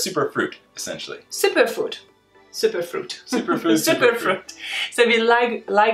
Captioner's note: laughs